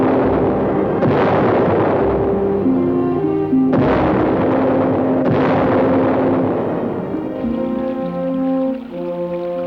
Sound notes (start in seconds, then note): 7.2 cannon fire stops